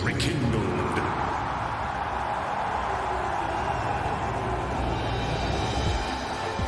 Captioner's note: crowd continues cheering